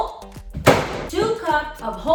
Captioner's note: bumping sound